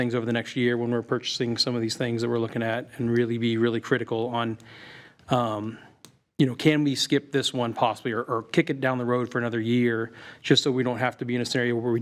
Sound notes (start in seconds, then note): none